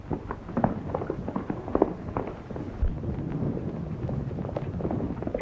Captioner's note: horses galloping